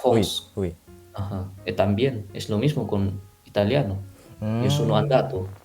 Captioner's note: Spanish; Italian